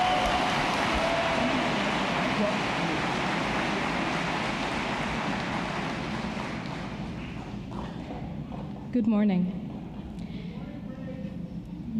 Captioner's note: applause